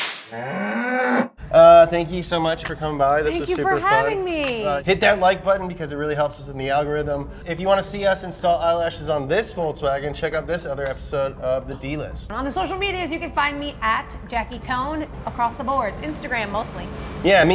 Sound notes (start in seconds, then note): 0.0 whip snaps; 0.3 cow moos